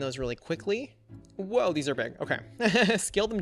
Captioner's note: laughs